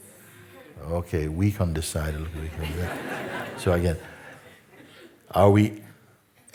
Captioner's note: laughter